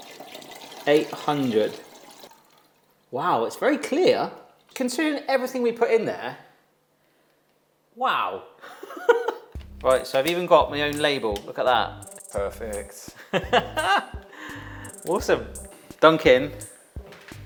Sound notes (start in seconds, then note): 8.6 chuckles; 13.2 laughs